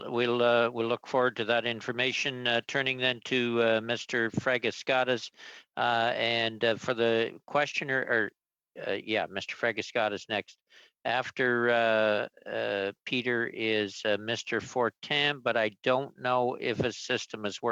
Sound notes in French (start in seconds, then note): 4.9 voix de l'interprète